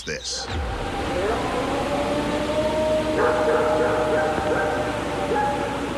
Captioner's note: dog barking; recording howling